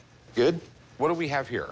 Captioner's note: voiceover